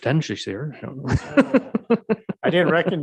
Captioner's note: mayor laughing